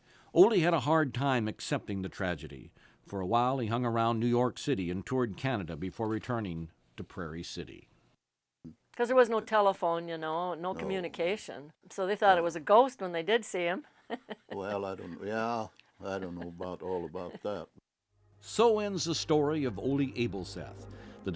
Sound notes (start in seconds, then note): 14.0 laughs